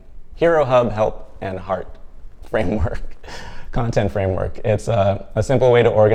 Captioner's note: risas